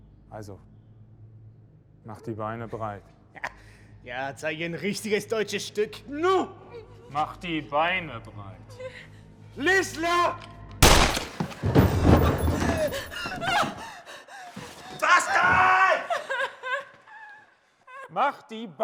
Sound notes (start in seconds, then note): 13.5 panting; 16.9 Christabelle cries